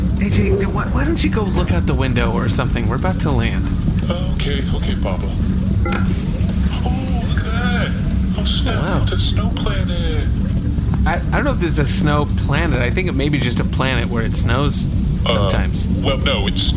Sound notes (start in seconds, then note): 8.9 in quiet awe